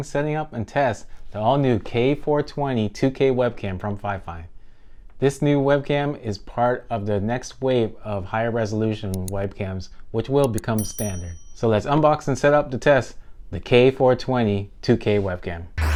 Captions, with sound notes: setting up, and test the all new K420 2k webcam from Fifine. This new webcam is part of the next wave of higher resolution webcams, (button clicking) which will become standard. (bell dinging) So let's unbox and set up to test the K420 2k webcam.